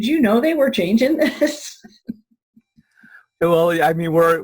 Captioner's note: chuckling